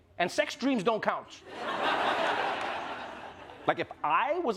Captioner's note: laughter